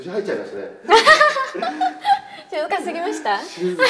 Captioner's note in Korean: 웃음